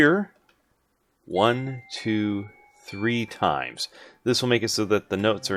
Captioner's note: hits note block and counts